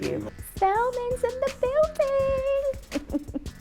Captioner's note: laughs